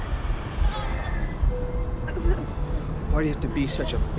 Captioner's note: sobbing